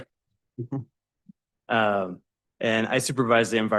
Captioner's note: chuckling